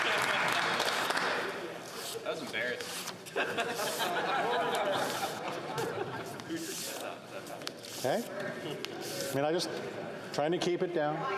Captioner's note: some Applause